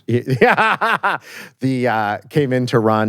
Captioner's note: laughs